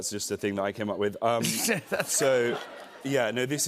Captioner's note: laughter